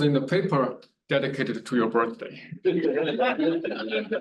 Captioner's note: students laugh